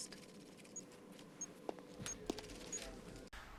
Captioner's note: beeping, footsteps